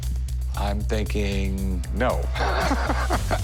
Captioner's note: laughs